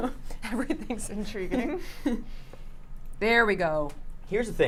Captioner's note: chuckles